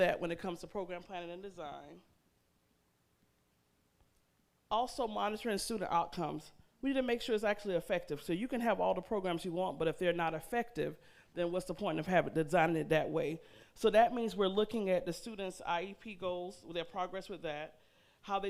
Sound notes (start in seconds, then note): none